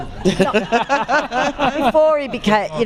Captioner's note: laughter